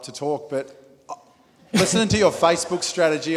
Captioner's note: audience laughing